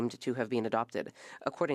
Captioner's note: speaking French